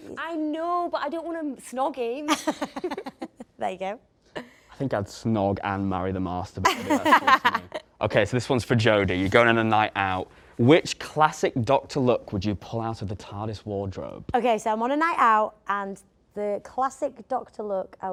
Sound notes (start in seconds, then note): 2.3 both laugh; 6.7 everyone laughs